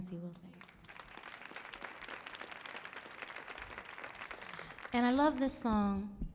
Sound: audience clapping

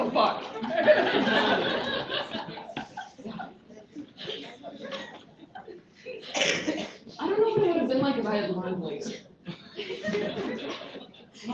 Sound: laughter

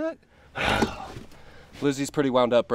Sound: sighs

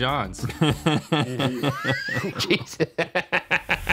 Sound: both laughing; laughing

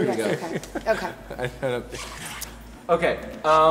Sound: laughs

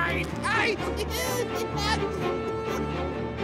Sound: laughing manically

